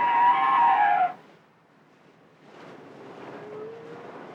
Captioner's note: cetacean sounds